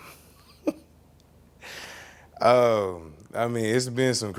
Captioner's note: chuckling